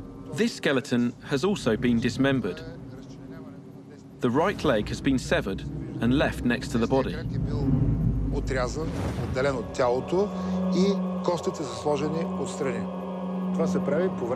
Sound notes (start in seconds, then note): 7.8 speaking Bulgarian